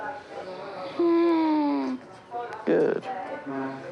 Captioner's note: breathes raspily